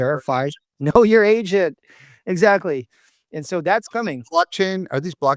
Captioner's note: laughs